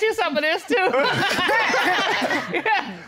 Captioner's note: all laugh